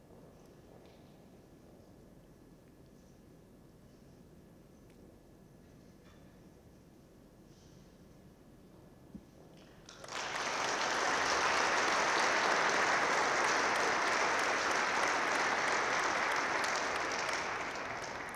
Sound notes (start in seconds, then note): 9.8 audience claps